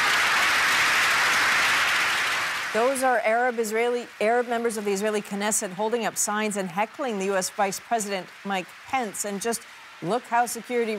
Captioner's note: applause